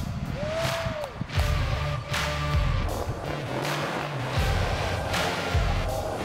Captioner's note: applause